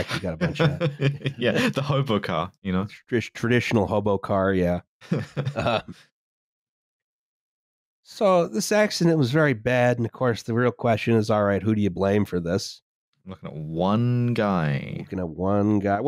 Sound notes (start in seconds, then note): 0.0 chuckles; 5.0 laughter